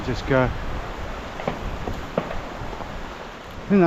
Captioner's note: gun banging